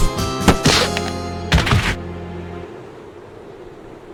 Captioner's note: rock thudding; wind howling